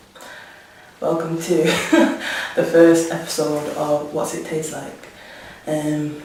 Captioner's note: laughs